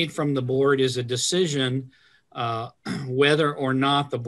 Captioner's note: clears throat